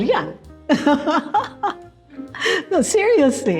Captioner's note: laughs